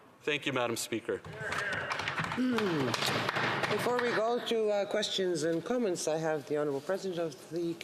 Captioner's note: some Applause